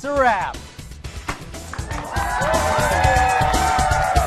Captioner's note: cheering